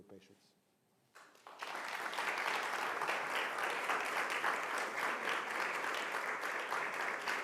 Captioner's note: clapping